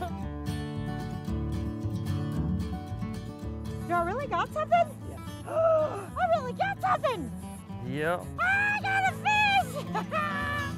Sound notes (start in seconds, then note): 5.4 laughs; 7.5 guitar music